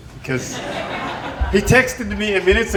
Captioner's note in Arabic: يضحك الضيوف